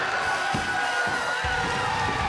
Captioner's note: bell ringing